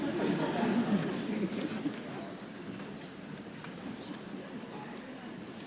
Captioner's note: audience laughing; people chattering softly